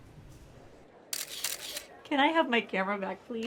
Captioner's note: camera clicking